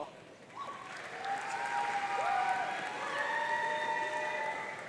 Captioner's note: audience cheering